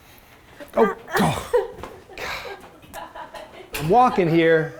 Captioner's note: laughs; sighs